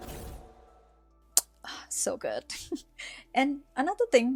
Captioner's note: kiss